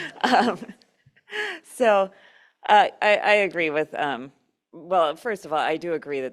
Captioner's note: laughter